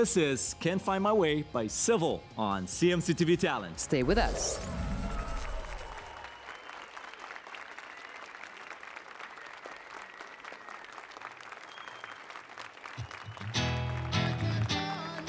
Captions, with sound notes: So this is can find my way by SIVLE on CMC TV Talent. Stay with us. [APPLAUSE AND CHEERS]